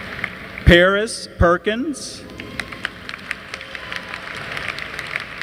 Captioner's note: applause